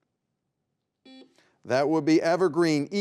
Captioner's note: buzzer beeping